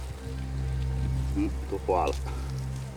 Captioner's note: speaking Chinese